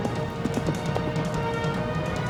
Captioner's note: horse galloping